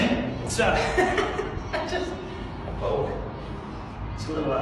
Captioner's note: laughs